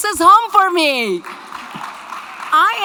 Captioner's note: audience clapping